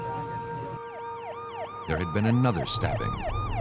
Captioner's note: sirens